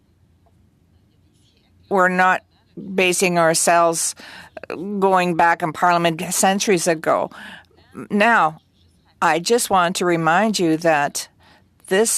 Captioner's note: speaking French